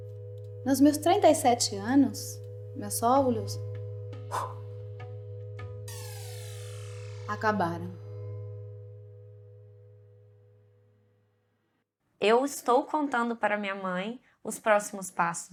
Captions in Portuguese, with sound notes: Nos meus trinta e sete anos, meus óvulos [assopra forte] acabaram. Eu estou contando para a minha mãe os próximos passos dela, né?